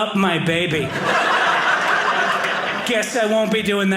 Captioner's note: audience laughing